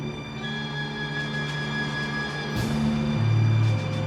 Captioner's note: pump whirring